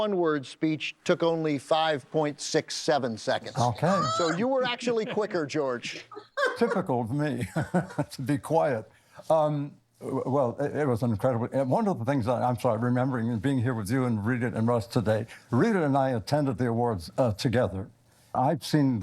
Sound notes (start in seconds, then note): 5.8 Rita laughing; 7.2 laughs